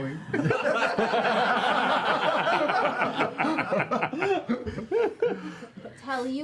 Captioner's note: laughter